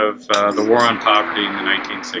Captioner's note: clapping